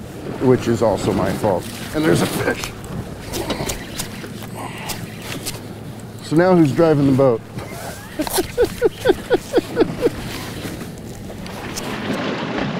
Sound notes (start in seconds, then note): 3.2 reel cranking; 9.1 chuckling; 9.8 reel cranking